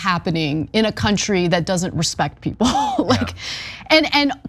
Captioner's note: laugh